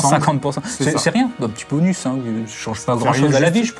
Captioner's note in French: rires